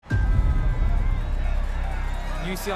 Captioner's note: crowd cheering